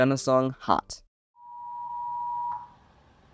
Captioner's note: attention tone